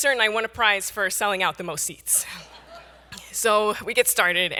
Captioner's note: audience laughs